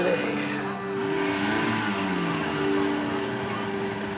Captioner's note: motor revving